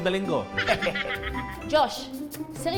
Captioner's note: laughing